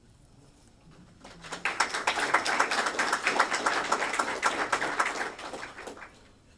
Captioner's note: applause